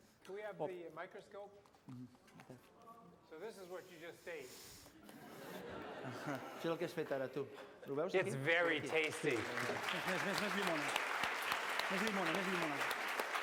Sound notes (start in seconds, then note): 5.0 laughter; 7.3 non-english speech; 8.4 applause; 11.8 non-english speech